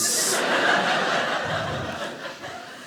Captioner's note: audience laughing